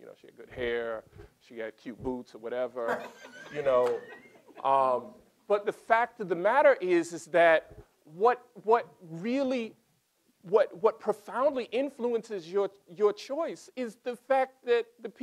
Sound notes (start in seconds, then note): 2.8 laughter